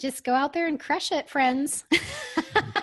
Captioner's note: laughs